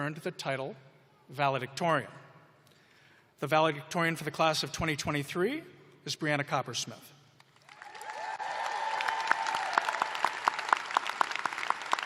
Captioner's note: cheers and applause